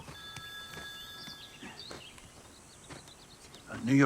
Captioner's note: phone rings